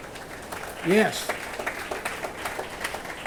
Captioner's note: attendees applauding